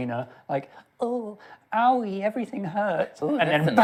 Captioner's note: miserable voice; normal voice